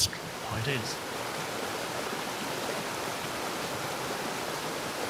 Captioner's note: waterfall rushes